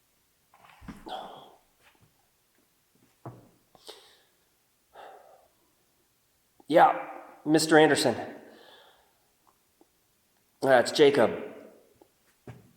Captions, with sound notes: (Jacob groans) Yeah, Mr. Anderson. It's Jacob.